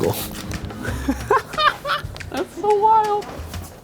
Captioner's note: laughing